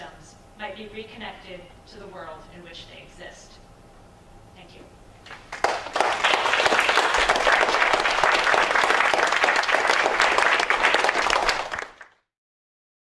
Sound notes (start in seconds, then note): 5.3 applause